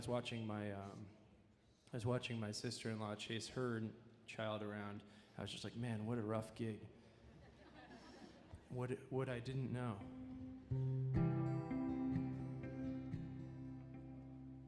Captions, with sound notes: I was watching my sister-in-law chase her child around. I was just like, man, what a rough gig. (audience laughing) What I didn't know. (gentle music)